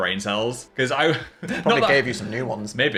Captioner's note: laughs